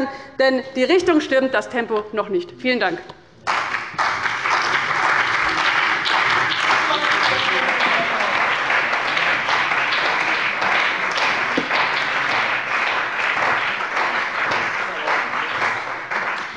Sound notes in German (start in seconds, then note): 3.4 Beifall bei dem BÜNDNIS 90/DIE GRÜNEN und der CDU